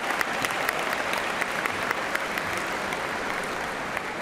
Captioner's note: cheers and applause